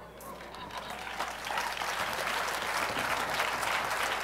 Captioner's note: applause